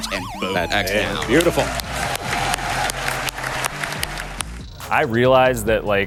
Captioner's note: crowd applauding